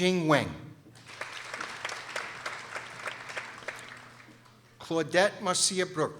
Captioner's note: people applauding